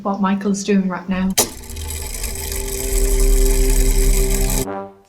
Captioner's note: mechanism Whirring